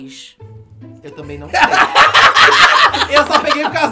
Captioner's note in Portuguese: risos